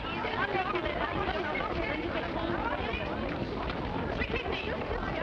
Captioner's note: people murmuring